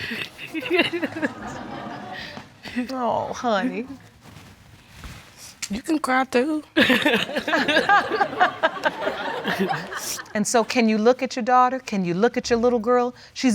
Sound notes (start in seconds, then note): 0.1 laughs; 0.2 audience laughs; 6.8 laughter